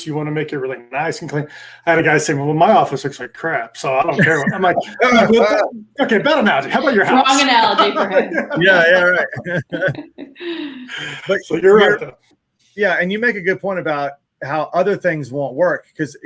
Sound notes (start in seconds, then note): 3.9 laughs; 8.1 laughs; 10.5 chuckles